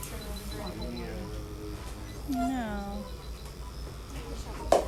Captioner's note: beeping